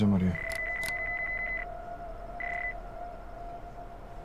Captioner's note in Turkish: Telefon Çalıyor